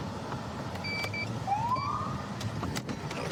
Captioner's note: siren chirps